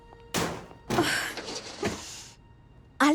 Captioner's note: groan